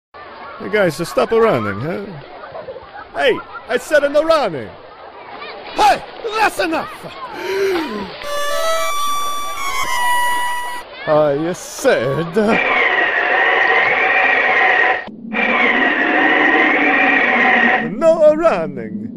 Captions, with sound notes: Hey guys A-Stop A-Running Huh Hey I Said A-No Running Hey That's Enough (Warp Whistle Sound) I A-Said a (Swishy Tornado) No A-Running